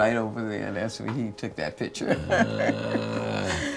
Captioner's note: laughs